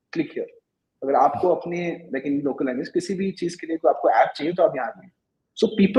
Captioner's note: speaking hindi